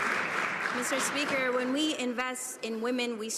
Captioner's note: some Applause